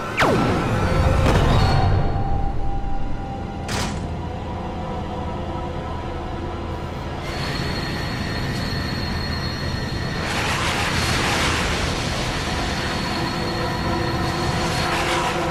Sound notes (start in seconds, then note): 0.1 sound of satmer collapsing; 0.1 laser gun blast; 3.6 doors shutting sound